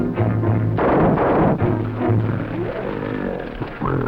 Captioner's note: gunshots firing; tense music; gorilla grunting; tense music